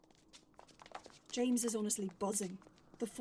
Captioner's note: footsteps on cobblestones